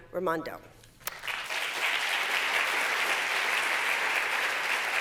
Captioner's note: applause